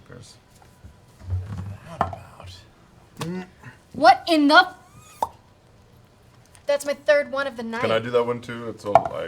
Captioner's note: popping sound